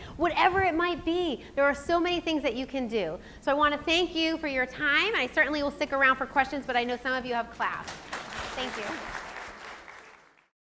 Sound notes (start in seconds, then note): 7.9 audience applause